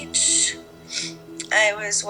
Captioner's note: sniffles